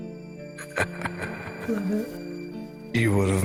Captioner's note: echoing